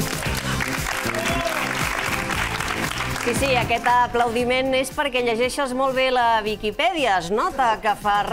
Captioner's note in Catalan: aplaudiments